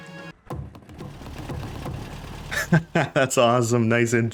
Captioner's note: laughs